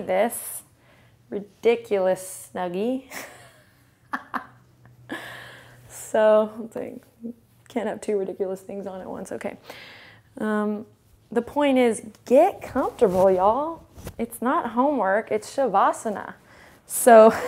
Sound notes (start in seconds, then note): 3.1 laughs